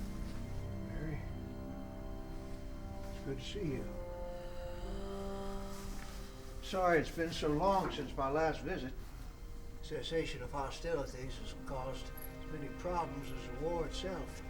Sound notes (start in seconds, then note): 3.8 faint moaning